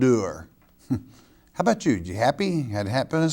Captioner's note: chuckles